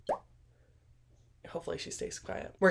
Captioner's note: silence